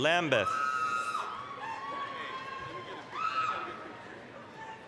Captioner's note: applause, cheering